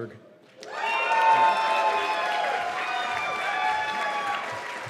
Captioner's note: cheers and applause